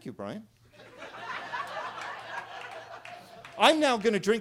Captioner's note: attendees laughing and clapping